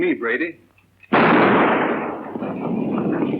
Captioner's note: gunshot